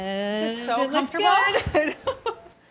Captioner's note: laughs